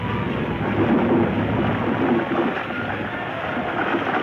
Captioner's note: clattering